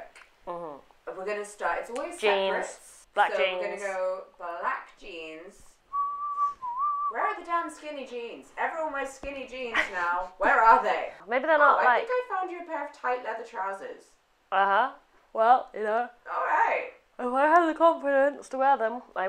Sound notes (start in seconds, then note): 5.9 whistles